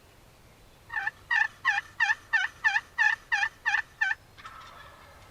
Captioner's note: turkey gobbling